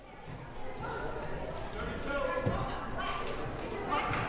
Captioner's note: crowd murmuring